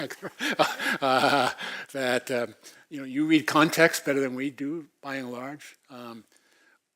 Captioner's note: laugh